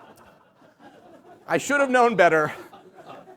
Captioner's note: laughter